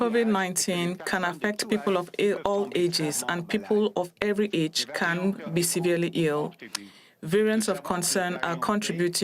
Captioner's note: speaking French